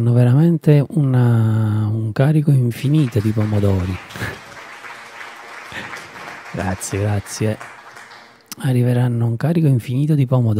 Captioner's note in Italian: Applauso